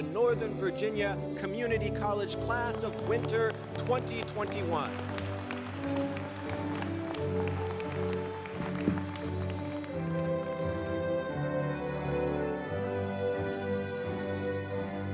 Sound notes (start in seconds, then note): 5.1 applause